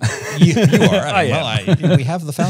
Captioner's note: both chuckling